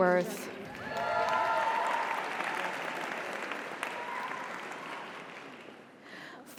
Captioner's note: audience applauds; audience cheers